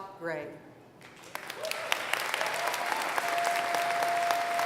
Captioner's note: applause